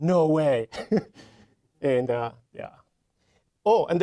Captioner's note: chuckling